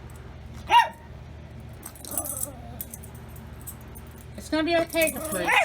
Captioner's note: Ella barks